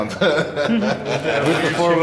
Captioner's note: laughs